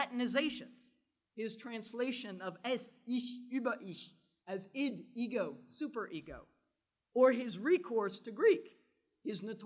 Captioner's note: german